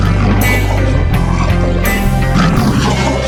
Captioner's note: roaring